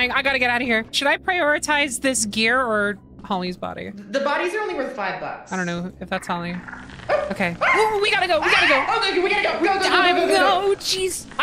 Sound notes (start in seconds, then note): 8.3 bug buzzing, screams